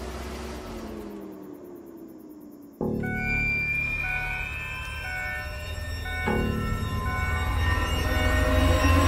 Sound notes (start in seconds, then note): 2.8 car beeping; 2.8 dramatic music